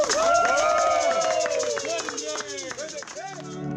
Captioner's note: applause